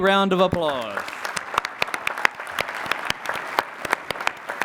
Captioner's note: applause